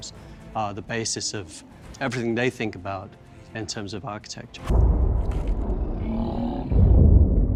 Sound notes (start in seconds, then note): 5.8 h'raka groans